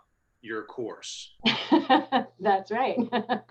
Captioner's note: laughs